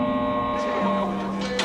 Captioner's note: cell door buzzes